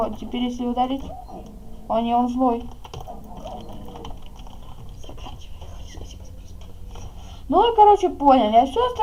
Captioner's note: whispers: finish and say: “thank you all for watching”